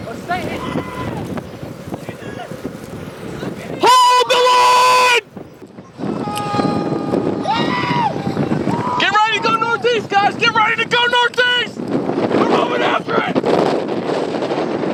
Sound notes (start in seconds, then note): 6.0 storm chasers shouting; 14.6 wind howling